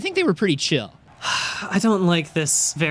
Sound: sighs

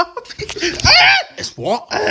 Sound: yells

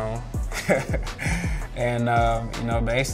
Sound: laughs

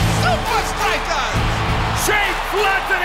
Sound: clapping

